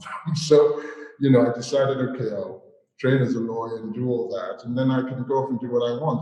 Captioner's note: chuckles